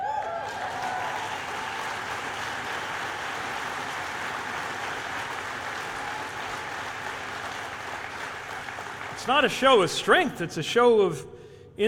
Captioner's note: cheers/applause